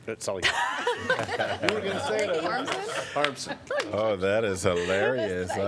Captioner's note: laughter